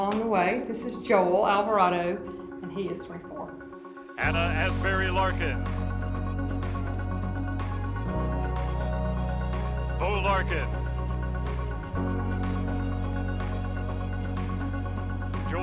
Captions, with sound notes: along the way, this is Joel Alvarado. And he is 24. - [Voiceover] Anna Asbury Larkin. Bo Larkin. (upbeat electronic music)